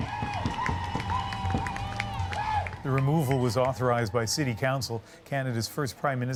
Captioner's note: cheers and applause